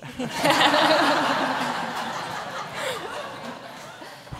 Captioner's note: audience laughs